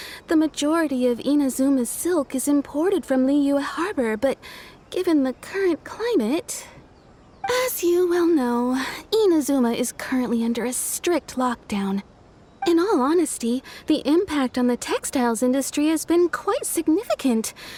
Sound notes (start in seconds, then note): 7.4 sigh